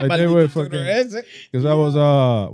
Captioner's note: laughing; speaking Foreign Language